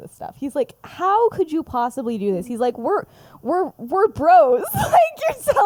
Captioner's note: laughs